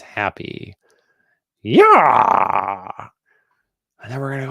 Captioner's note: imitating howard dean